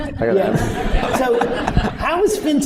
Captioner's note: laughter